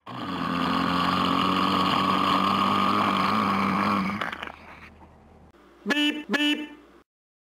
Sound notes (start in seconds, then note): 0.0 engine accelerating; 5.8 beep beep